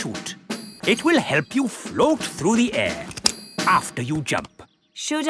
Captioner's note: clicking